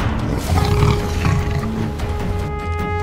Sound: lion roars

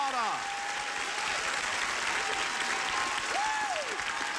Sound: cheering

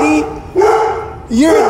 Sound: dog barking

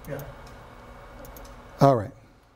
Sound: mouse clicking

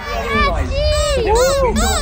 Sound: toy squeaking

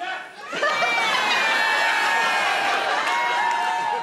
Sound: crowd laugh

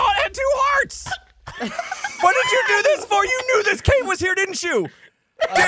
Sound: laughter; laughs manically

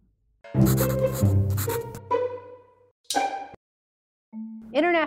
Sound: marker scratching

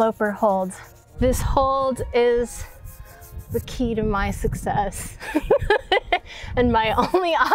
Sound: laughs

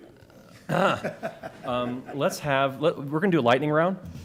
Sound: laughter

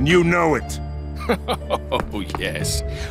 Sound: chuckles

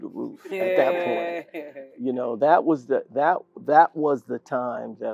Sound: laugh

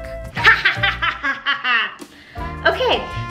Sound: laughing

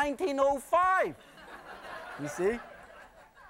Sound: laughter

